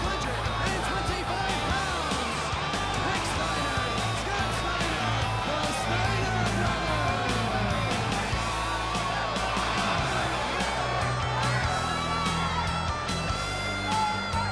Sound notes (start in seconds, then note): 6.3 crowd cheering; 7.3 crowd chatter